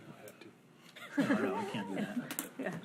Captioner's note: board laughs